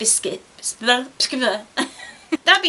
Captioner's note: giggles